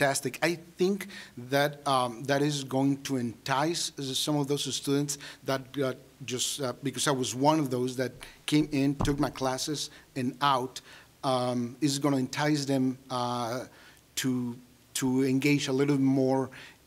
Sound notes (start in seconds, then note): none